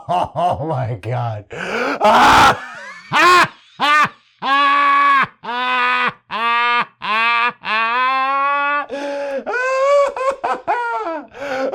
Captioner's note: extended, unrestrained, delighted laughter